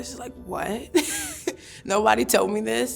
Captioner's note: chuckles